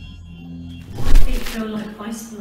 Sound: pat

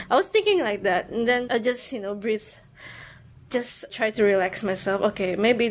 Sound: inhales

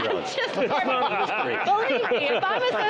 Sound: group laughing

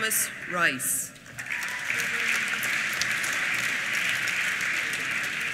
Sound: applause

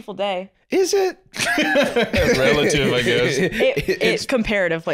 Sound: laughing

